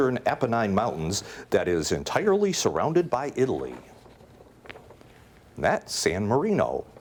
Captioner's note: none